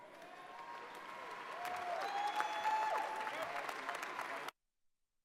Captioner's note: audience cheers and applauds